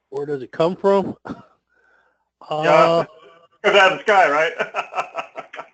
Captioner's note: laugh